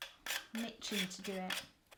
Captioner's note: lid spinning